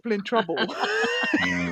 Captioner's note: laughter